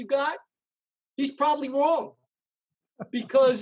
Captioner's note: laughs